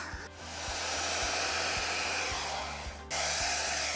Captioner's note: blower blows